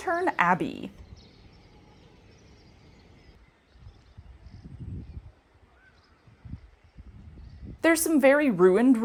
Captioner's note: quiet nature sounds